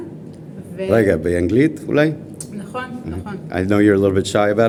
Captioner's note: starts in Hebrew